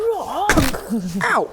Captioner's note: klunk!